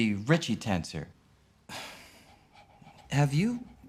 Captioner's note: sighs